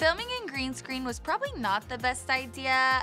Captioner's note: none